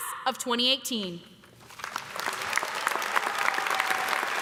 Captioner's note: applause